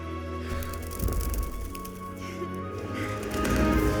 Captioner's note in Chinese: 振翅声